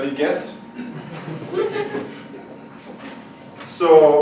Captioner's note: audience chuckles